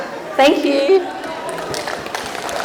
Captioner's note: applause